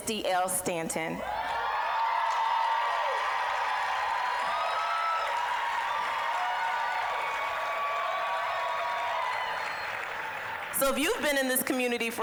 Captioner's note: applause, cheering